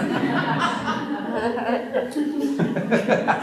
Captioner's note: laughter